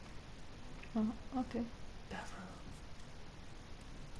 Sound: whispens

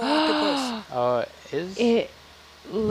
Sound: female gasps

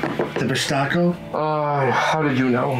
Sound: Derek groans

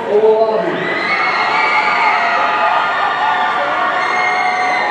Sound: audience cheering

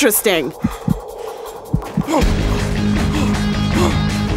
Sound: panting

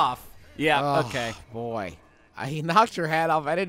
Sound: sighs

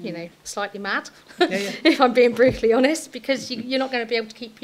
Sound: chuckles

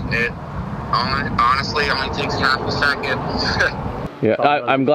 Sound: laughs

